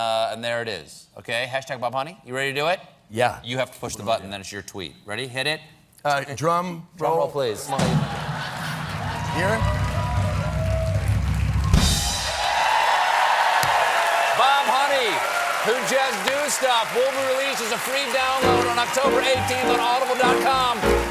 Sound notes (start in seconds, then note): 8.8 drum roll; 13.7 cheers and applause